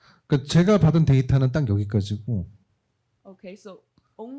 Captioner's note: speaking korean